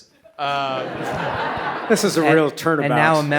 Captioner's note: audience laughs